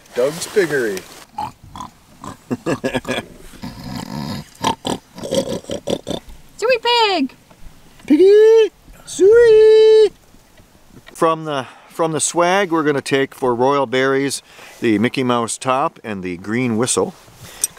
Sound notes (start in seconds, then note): 2.7 oinking sounds